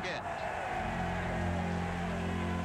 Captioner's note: cheering